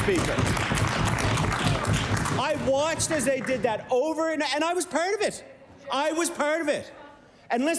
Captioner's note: applause